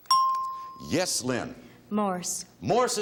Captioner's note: bell chimes